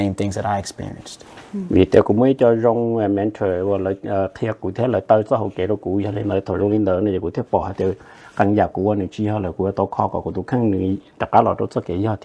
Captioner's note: Speaking in Hmong